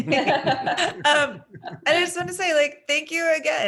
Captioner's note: all laughing